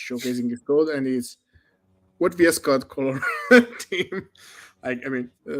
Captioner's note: laughs